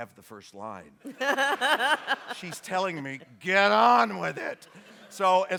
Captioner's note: laughter